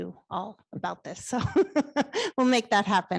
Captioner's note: laughs